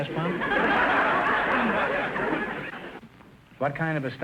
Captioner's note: audience laughter